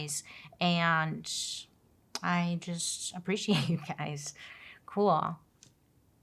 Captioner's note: laughs